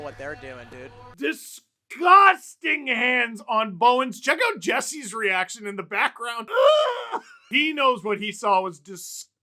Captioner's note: laughter